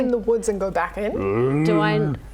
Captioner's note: groan